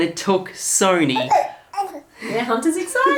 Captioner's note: baby mumbling